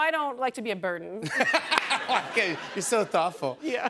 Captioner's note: laughter